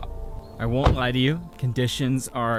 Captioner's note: car door shutting